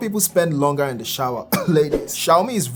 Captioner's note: coughs